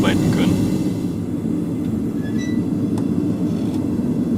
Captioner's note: hissing, squeaking